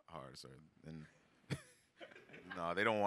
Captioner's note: all laugh